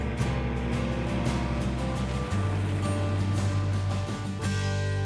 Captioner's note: plane hums